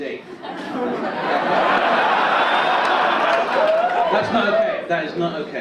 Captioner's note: audience laugh and cheer